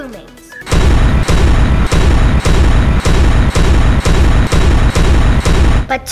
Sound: thunder as each crew mate is displayed

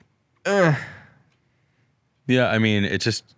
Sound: groans

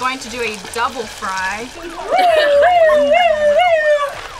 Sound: imitating police siren

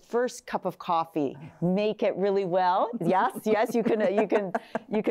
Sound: laughing

